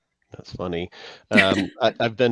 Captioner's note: chuckling